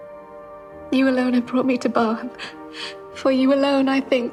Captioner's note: gasps